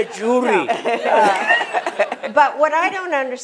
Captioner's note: laughter